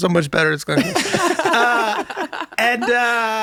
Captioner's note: everyone laughing